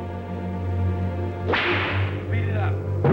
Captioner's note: whip cracks